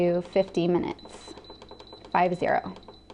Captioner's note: beeping